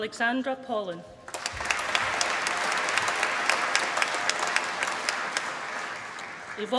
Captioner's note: applause